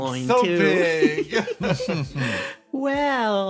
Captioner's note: laughs